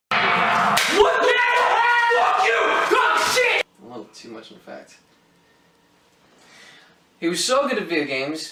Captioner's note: rage chatter